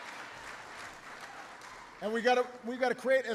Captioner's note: applause